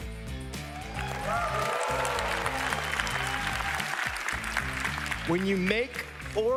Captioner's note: crowd cheering; crowd applauding